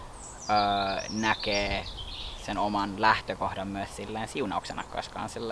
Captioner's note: a crow croaks; small birds chirp